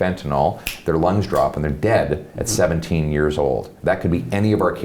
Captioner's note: snaps